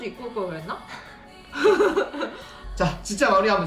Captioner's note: laughing